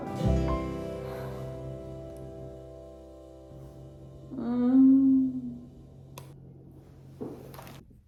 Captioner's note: grunts